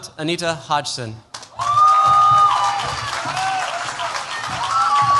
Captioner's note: cheers, applause